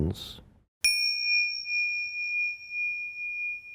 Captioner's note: bell chimes